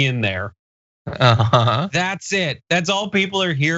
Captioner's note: laugh